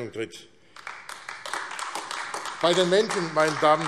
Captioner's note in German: Beifall AfD